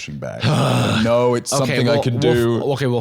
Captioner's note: groans